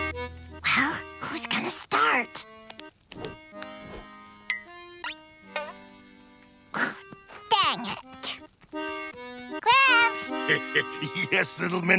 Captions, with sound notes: Well, who's going to start? Dang it. Gramps? [chuckling] Yes, little minnow?